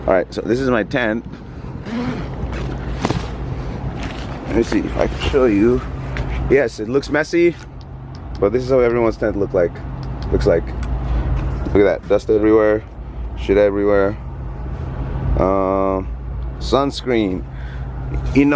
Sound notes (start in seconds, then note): 2.0 zipper swishes; 3.8 fabric rustling